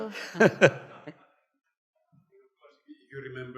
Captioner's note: laughs